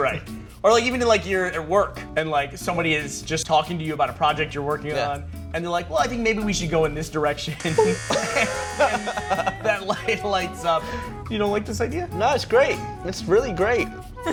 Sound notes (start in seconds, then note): 7.6 buzz; 7.6 laughing